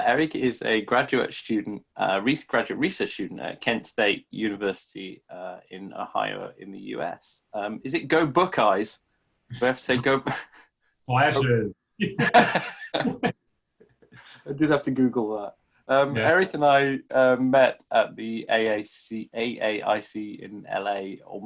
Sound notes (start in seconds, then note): 12.0 chuckles; 12.0 men laughing